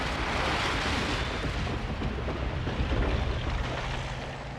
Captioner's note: building crashing